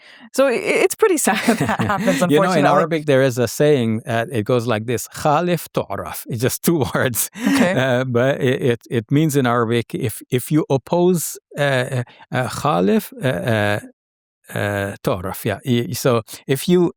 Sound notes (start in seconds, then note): 5.3 speaks Arabic